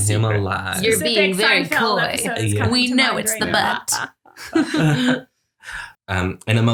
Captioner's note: laughs